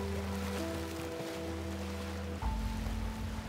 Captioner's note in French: éclaboussements